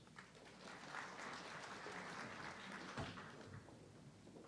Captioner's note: audience clapping